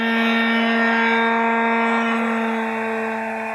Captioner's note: sander buzzing